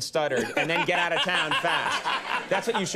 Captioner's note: laughing